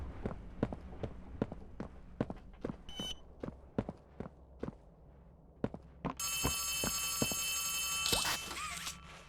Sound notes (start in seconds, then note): 0.0 footsteps; 1.4 phone rings